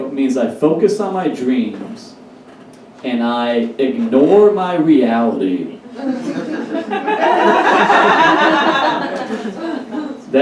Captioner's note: audience Laughs